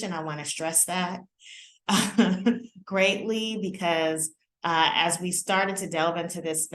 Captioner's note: laughter